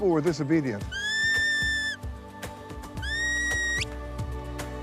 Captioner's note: whistles